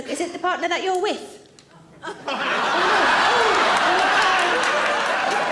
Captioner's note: audience laughing